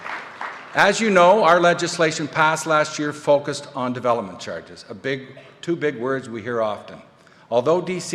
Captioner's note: applause